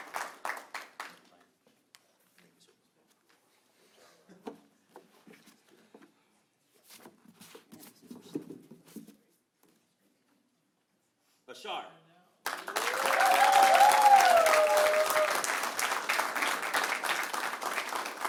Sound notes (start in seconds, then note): 0.0 applause; 0.6 cheering